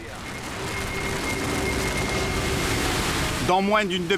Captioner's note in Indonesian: suara gelombang